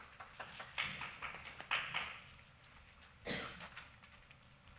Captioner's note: clapping